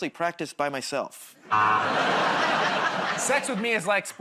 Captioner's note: laughter, buzzer